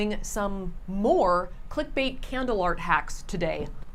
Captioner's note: none